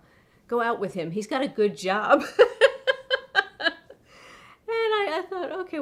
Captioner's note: laughs